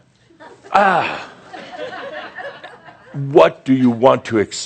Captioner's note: some chuckles